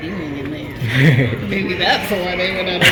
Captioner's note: laughs